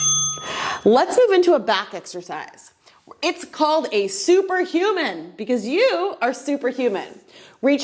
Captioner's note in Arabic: قرعات الجرس